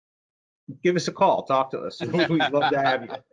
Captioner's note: laughs